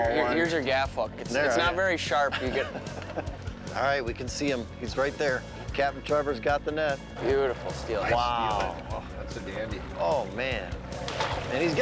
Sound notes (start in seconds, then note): 2.2 laughing